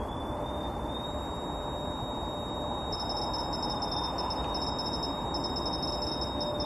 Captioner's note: energy detector device beeping and whistling